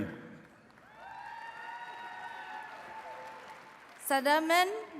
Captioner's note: attendees cheering and clapping